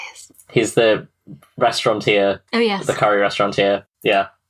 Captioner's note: whispered